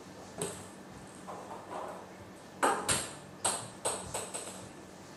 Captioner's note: balls ping pong hitting continues